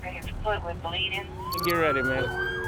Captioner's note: sirens blaring